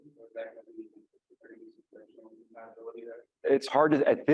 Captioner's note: speaking faintly